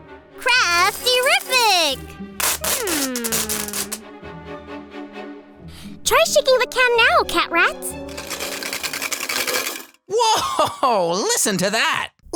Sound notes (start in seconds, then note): 8.0 rattling